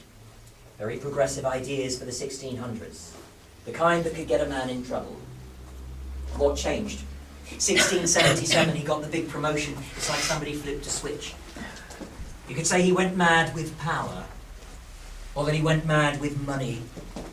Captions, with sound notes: Very progressive ideas for the 1600's. The kind that could get a man in trouble. What changed? (Guy Coughing) Guide: 1677 he got the big... the big promotion, it's like somebody flipped the switch. You can say he went mad with power. Or that he went mad with money.